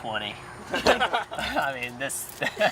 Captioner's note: group laughs